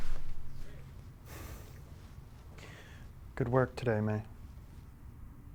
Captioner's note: sighs